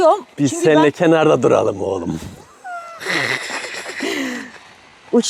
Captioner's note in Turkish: kahkaha; homurdanır